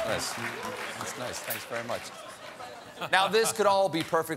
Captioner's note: applause